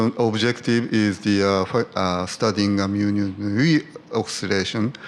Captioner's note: murmurs